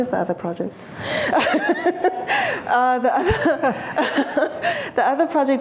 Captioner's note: laughing